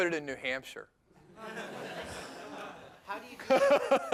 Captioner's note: laughter